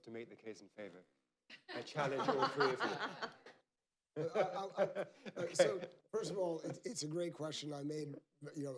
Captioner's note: laughter